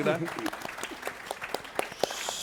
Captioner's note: applause